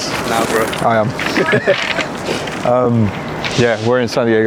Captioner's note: both chuckle